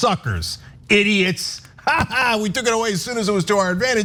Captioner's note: laugh